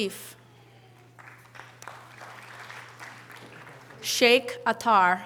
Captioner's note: audience applause